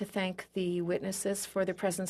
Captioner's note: speaking French